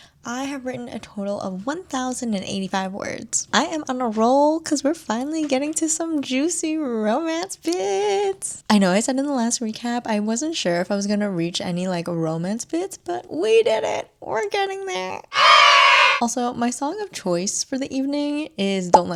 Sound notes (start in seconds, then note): 15.4 cheers